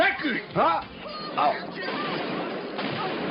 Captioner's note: gunshot